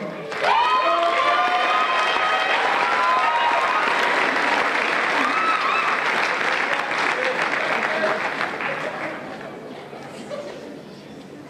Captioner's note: applause and Cheers